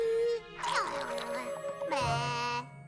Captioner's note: babbbbling